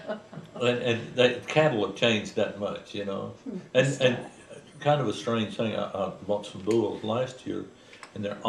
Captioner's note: laughter